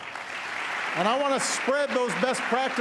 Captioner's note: applause